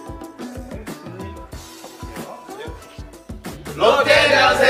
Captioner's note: Laughs while looking at the two